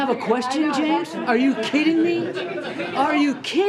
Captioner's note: laughter